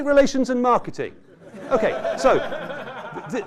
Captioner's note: laughter